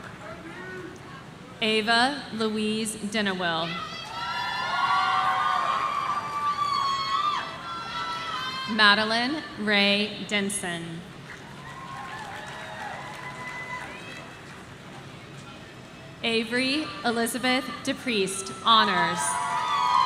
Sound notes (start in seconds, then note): 4.0 audience cheering; 19.0 audience cheering